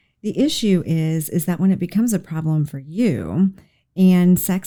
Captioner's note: none